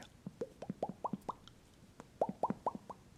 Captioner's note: mouth popping sounds